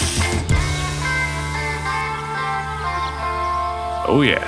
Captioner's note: aerosol can hissing; birds chirping